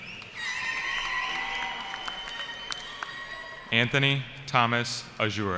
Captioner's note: cheering